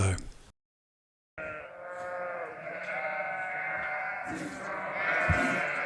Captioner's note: sheep baaing